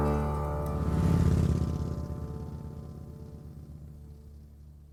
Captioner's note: motorbike roaring